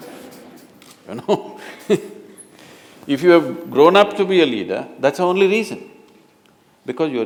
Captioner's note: laughter